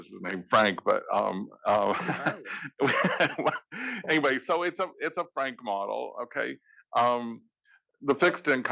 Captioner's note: laugh